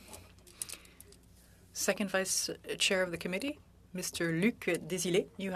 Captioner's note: speaking French